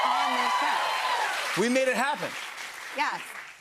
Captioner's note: cheers and applause